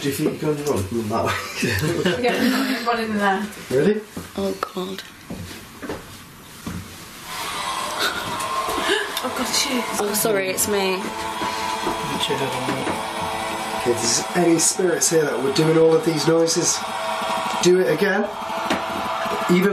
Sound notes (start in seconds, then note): 1.6 laughing; 7.0 chanting music